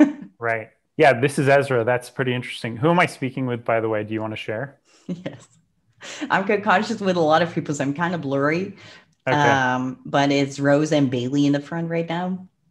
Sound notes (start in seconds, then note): 5.1 laughs